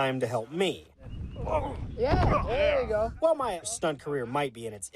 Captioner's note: body thumps